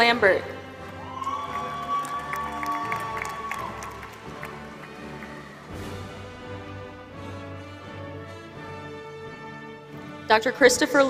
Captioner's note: applause